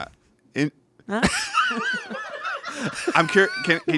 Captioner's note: everyone laughs